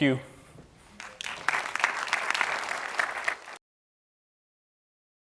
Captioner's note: applause